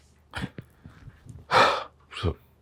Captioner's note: sighs